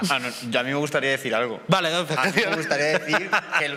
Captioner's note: he laughs